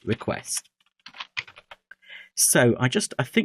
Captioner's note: keyboard typing